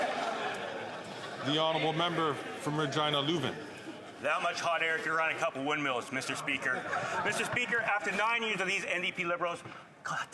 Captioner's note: some Applause